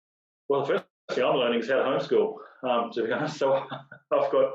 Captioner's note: laugh